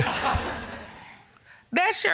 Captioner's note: audience laughs